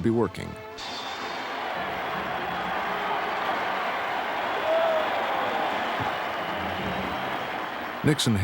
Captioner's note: cheers and applause